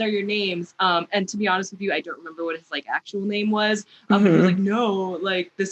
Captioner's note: mhmm